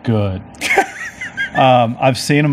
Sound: laughing

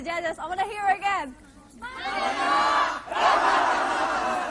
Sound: cheering

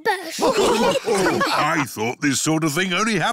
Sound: snorts; all laughing

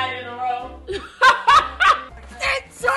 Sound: laughs

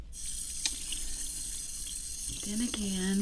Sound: water sprays

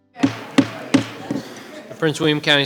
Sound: gavel bangs

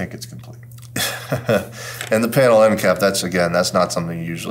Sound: laugh

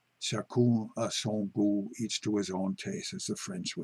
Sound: speaking foreign language

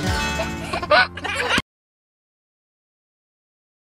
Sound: baby laughing

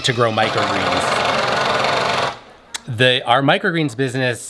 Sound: machine whirring

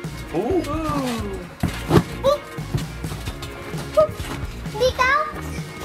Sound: trampoline squeaking

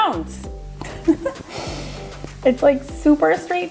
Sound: laughs

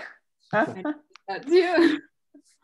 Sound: laughs

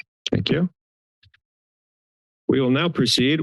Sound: silence

